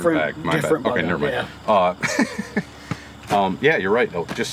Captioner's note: laughs